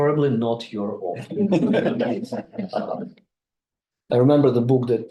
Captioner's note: group laughing